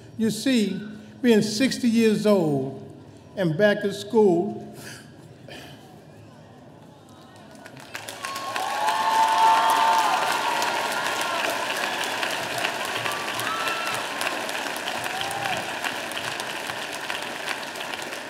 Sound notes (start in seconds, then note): 8.0 audience applauding